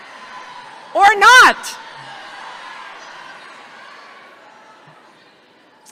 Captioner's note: audience laughing